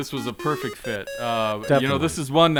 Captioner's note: upbeat video game beeps